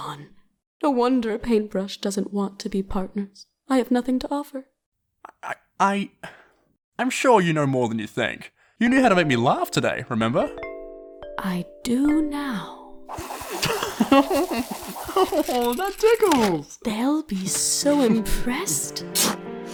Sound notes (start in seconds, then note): 13.4 The Floor giggles; 16.7 whispering